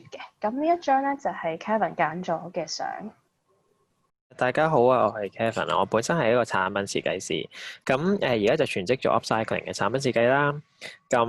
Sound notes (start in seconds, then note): 4.7 Cantonese